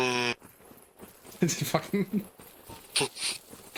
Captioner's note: laughs